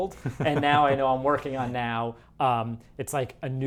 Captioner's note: laughs